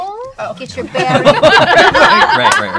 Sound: laughter

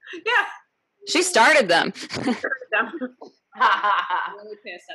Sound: laughs

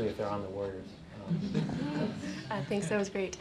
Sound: laughter

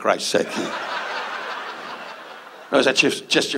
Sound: audience laughs

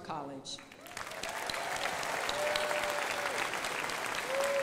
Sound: crowd applauding

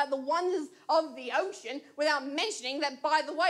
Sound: none

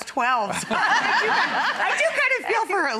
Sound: audience laughs

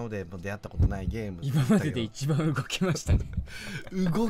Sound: laughs

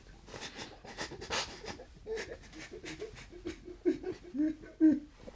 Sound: sobbing

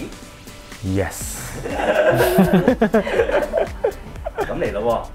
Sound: laughs

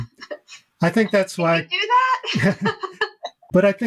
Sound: laughs

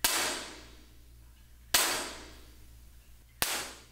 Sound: clapper sticks hit together in room with panels; clapper sticks hit together in room without panels; clapper sticks hit together in room without panels

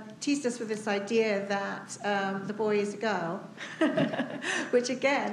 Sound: laughs

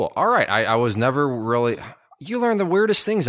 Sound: sighs

